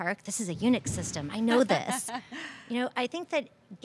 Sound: laughter

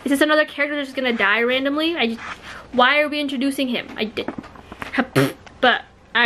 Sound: raspberry

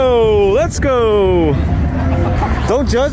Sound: laughing

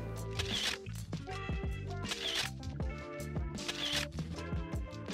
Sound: camera shutter clicking

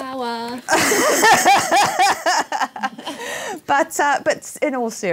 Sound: laughter

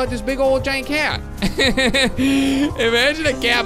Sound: laughs

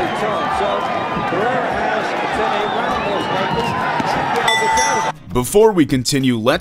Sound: crowd cheering

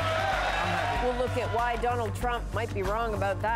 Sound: applause

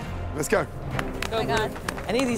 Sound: applause

